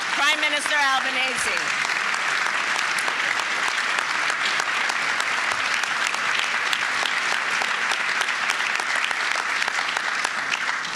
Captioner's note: applause